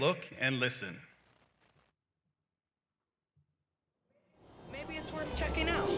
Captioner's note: silence